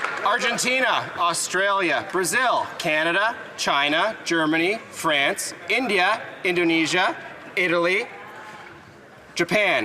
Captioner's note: applause; some Applause